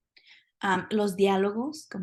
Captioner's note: speaking spanish